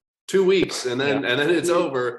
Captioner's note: laughs